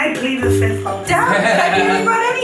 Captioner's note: laughter